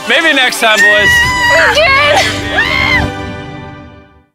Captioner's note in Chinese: 女隊伍歡呼